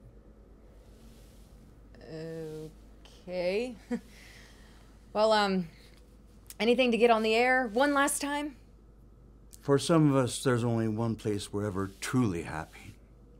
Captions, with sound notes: - Okay. (chuckles) Well, um, anything to get on the air one last time? - For some of us, there's only one place we're ever truly happy.